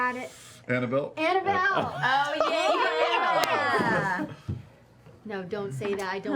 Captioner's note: laughter